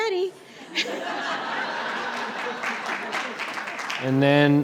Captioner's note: audience laughing and clapping